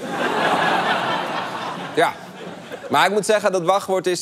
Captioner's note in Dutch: gelach